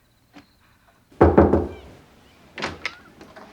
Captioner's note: knocking at door